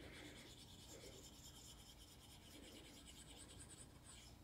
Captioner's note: pencil scratching